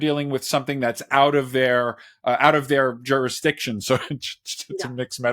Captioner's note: laughs